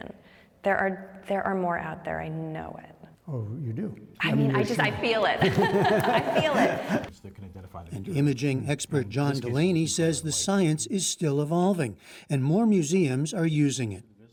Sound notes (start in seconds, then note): 4.4 laughter